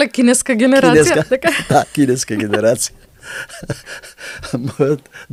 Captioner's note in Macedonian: смеа